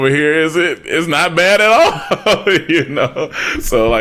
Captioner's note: laughs